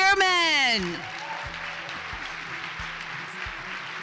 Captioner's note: applause